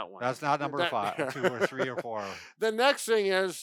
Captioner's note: laughs